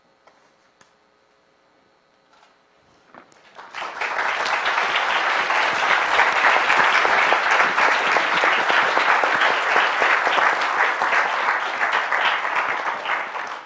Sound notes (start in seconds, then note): 3.5 applause